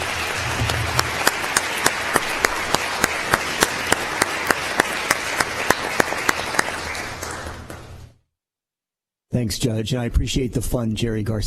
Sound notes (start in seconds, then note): 5.2 applause